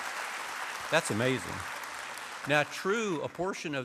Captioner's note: applause